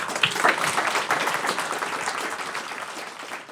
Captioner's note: applause